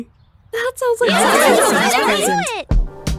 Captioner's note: sounds of agreement